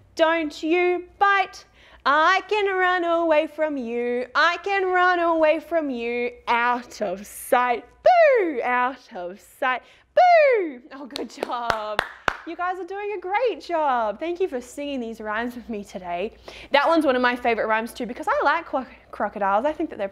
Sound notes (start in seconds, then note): 11.1 claps